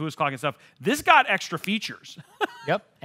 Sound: claps hands; laughs

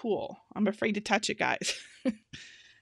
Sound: laughing

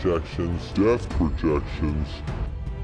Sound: distorted, slowing; distorted, slowing, stretching

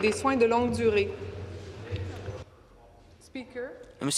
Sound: speaking in French

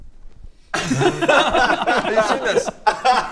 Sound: cruel laughter

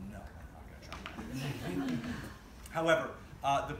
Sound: laughter

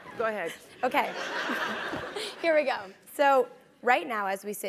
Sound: laugh

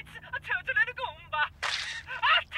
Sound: splat

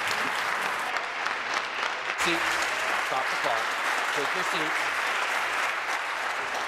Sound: applause

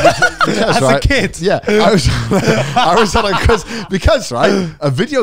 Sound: all laughing

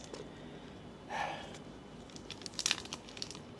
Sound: heavy breathing

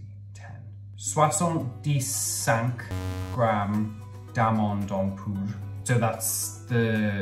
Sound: speaking in foreign language

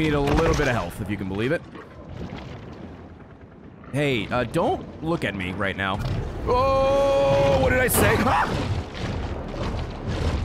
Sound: screams

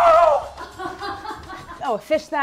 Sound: woman's laugh

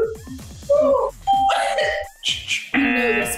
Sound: laughs; ding

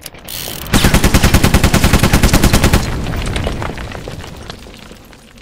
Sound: machine gun firing

